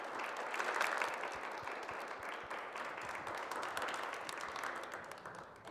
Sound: applause

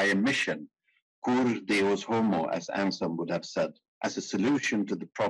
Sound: speaking in foreign language

